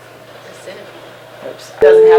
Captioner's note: high pitch humming